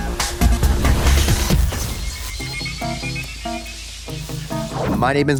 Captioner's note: electricity crackling